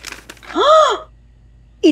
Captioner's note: Gasps